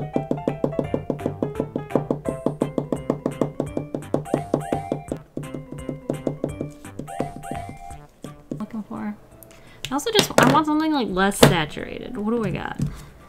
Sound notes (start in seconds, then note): 0.1 tap, tap, tap, tap, tap; 1.9 tap, tap, tap, tap; 2.9 tap, tap, tap, tap, tap; 6.8 still tapping